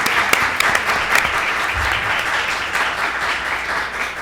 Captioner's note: applause; laughter